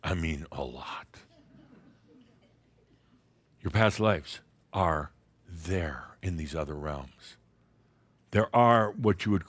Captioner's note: a few giggles